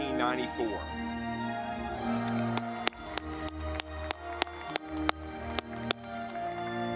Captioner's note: audience clapping